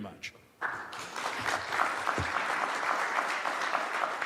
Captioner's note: applause